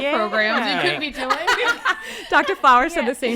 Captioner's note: laughs